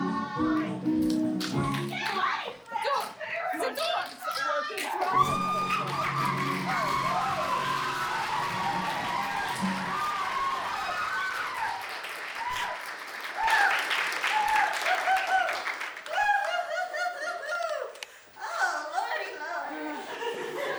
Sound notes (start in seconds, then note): 7.6 applause